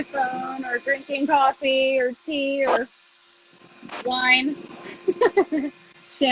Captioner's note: laughs